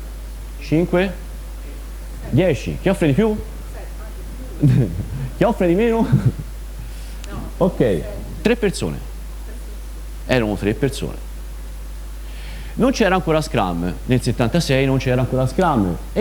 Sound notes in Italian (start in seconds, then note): 5.8 risate